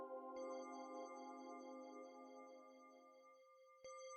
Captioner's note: bells ringing solemnly